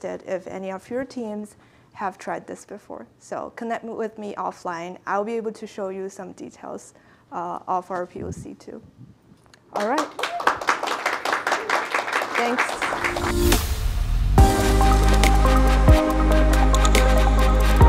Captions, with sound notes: if any of your teams have tried this before. So connect with me offline. I'll be able to show you some details of our views too. All right. (audience applauds) Thanks. (upbeat electronic music)